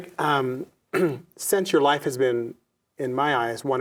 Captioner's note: clears throat